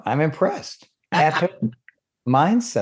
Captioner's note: laughing